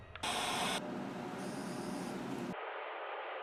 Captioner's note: sonic screwdriver buzzing